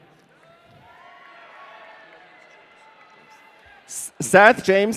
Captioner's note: audience cheering